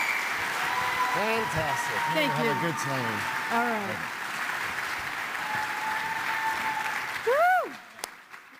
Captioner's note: applause